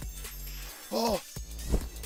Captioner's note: gasp